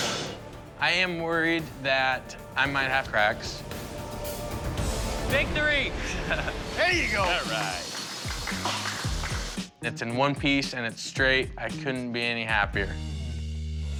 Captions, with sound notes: - I am worried that I might have cracks. Victory! - There you go! - All right. [applause] It's in one piece and it's straight. I couldn't be any happier.